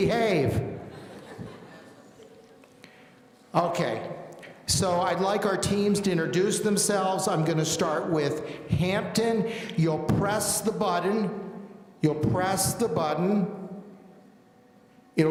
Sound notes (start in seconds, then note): 0.8 audience laughing